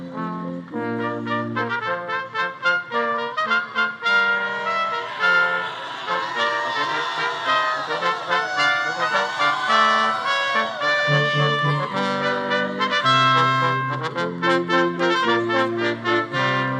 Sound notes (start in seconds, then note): 4.7 attendees cheering and applauding; 11.1 upbeat classical music